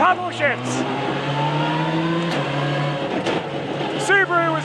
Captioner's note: engine rasping